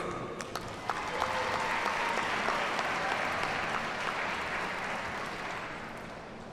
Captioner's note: audience cheers and applauds